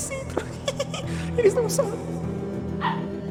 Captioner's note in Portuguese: risada